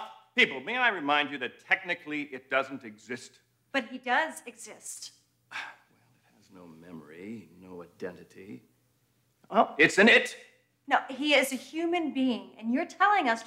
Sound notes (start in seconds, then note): 5.5 sighs